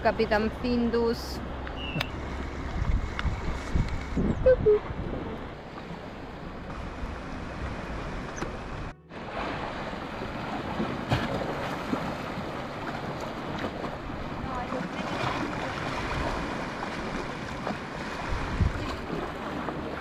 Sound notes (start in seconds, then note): 4.2 sound of the waves